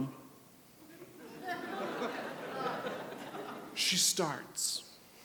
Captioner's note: audience murmurs